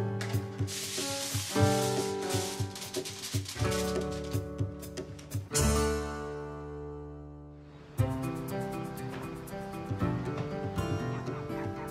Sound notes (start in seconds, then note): 0.6 tinfoil crinkles; 3.8 upbeat music